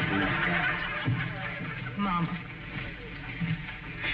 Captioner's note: audience laughing